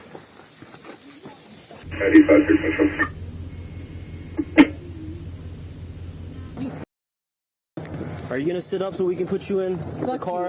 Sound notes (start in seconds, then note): 1.8 radio chatter